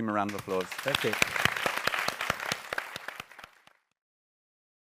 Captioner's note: audience applauding